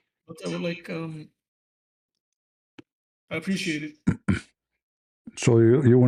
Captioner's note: clears throat